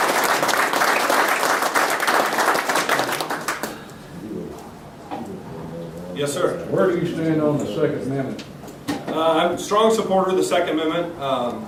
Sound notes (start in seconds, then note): 0.0 applause